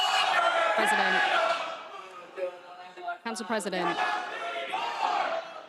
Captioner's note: crowd chanting